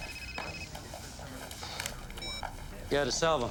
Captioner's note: phone ringing